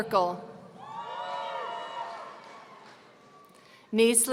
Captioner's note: audience cheering